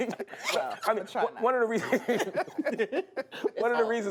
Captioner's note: laughter